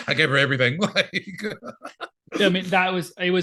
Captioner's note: laughing